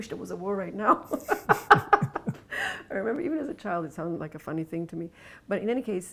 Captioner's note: laughs